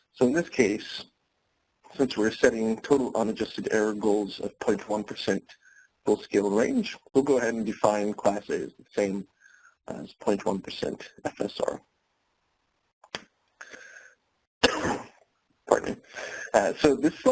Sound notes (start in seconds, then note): 14.7 sneeze